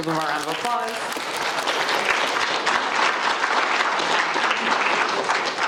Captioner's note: audience applauds